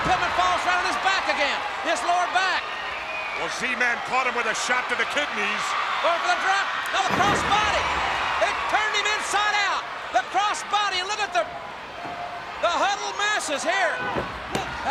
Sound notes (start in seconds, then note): 9.5 crowd cheering